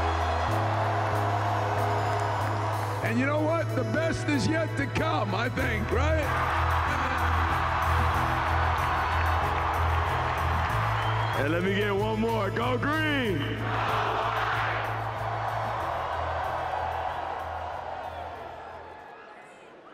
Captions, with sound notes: - And you know what? The best is yet to come, I think, right? (crowd cheers) - And let me get one more, "Go Green!" - [Crowd] "Go White!" (cheers)